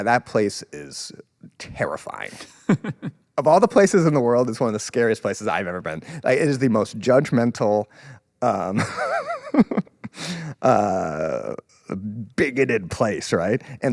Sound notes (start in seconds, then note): 2.3 laughs; 8.7 laughs